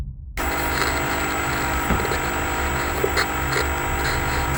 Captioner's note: TVs buzzing